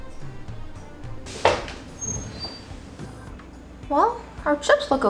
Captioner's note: upbeat music; rattling sound